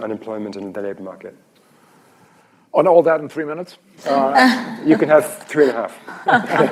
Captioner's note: laughter